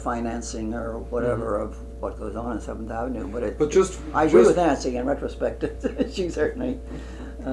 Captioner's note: laughs